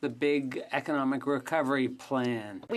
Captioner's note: speaking in French